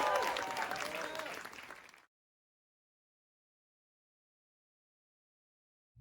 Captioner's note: applause